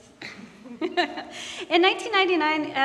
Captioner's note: laughing